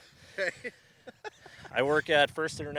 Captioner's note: laughs